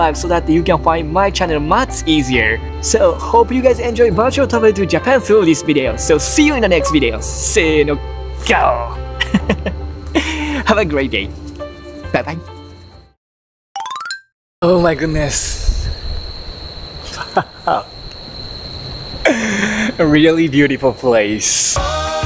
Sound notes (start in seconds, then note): 8.7 lion roar in Japanese; 9.2 chuckles; 17.1 chuckles